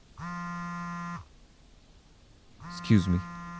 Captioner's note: phone vibrating